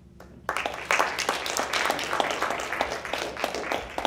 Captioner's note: people applauding